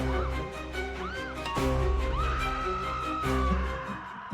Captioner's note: dramatic music; distant screaming